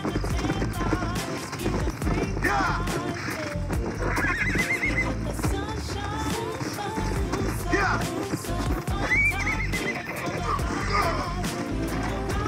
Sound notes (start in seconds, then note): 0.0 music or game and galloping horse; 3.7 horse cries; 5.3 music or game and galloping horse; 9.0 horse screams and cries of pain